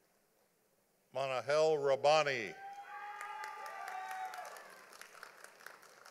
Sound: audience applauding

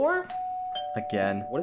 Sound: door bell ringing

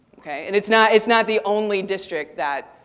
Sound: none

